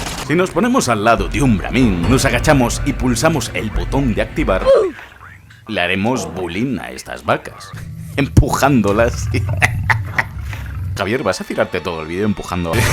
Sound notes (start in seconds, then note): 8.9 diabolical laughter